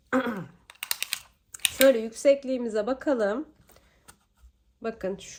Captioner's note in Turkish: boğazını temizler